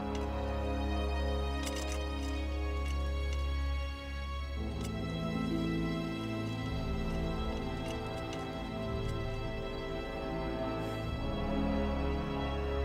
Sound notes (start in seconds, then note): 1.4 rattling